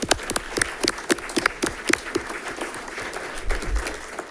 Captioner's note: audience clapping